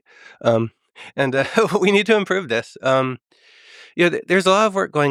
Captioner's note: laughs